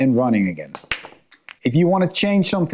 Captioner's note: pool balls clanking